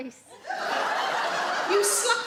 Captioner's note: audience laugh